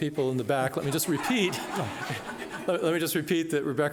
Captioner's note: laughing